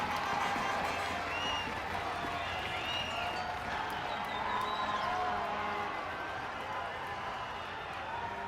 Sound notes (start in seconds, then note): 1.8 people cheering, whistles blowing